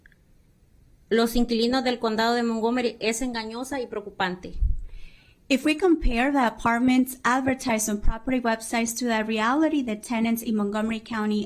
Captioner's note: speaking spanish